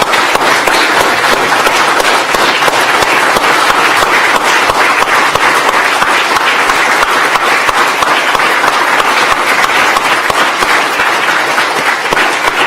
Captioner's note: applause